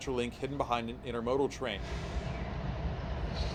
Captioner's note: wind howling